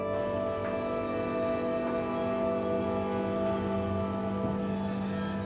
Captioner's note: monotonous hum blaring